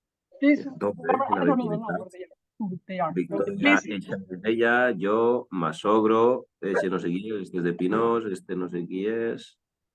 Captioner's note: Someone speaking in Catalan from Zoom